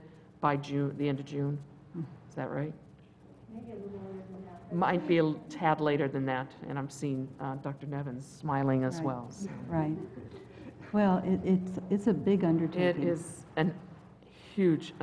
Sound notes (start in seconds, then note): 9.4 laugh